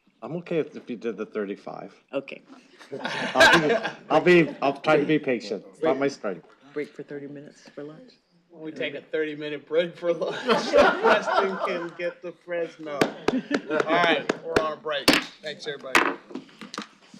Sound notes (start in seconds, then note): 2.7 laughter; 10.1 laughter